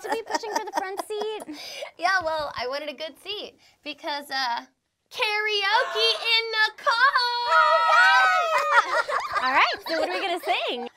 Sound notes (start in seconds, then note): 0.0 laughs; 8.4 all laughing